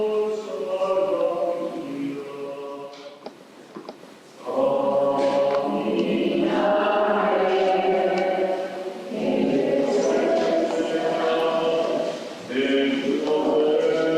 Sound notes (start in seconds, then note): 6.3 chanting